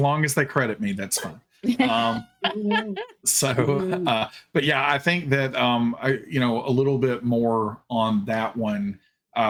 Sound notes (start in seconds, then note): 1.6 laughing; 1.6 chuckling